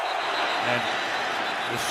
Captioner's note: whistle